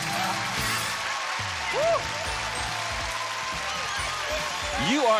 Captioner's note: applause and cheers